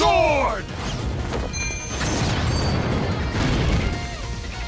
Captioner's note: attack whooshing